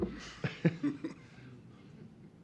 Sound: laughter

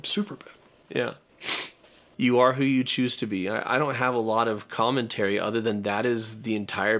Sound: sniffs

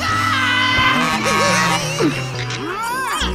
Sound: laughing

